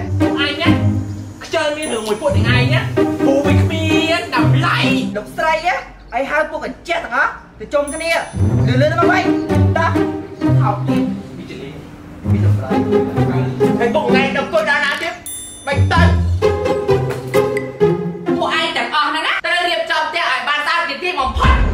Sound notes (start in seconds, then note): 11.1 cursing in the background